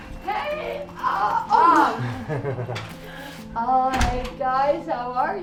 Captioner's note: laughs